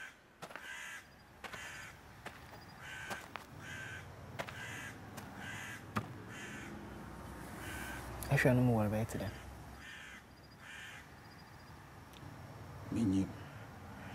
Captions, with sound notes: [in Twi] How deep do you think it is? I don't know.